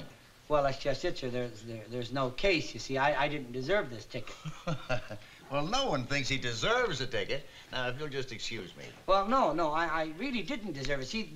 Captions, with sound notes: Well that's just it sir. There's no case, you see. I didn't deserve this ticket. [JUDGE CHUCKLES] Well no one thinks he deserves a ticket. Now if you'll just excuse me. Well no, no. I really didn't deserve it. See.